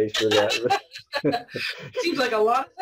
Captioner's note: laughs